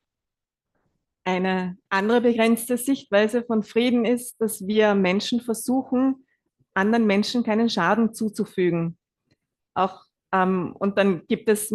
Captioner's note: German live translation